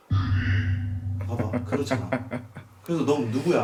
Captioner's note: laugh